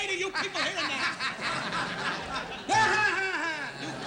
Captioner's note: laughter